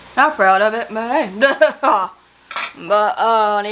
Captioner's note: laughs